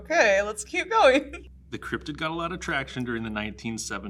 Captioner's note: giggles